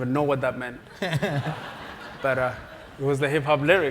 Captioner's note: laugh